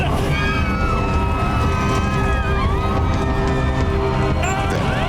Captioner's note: passengers screaming